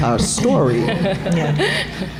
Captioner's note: laughter